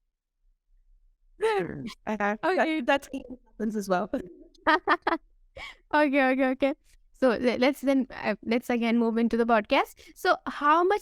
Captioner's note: laughs